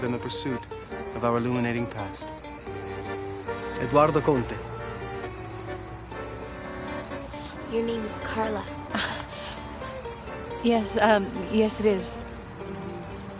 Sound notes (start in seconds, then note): 8.7 laughs